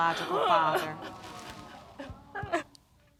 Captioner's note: sobbing